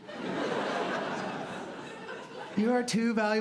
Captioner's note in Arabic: ضحك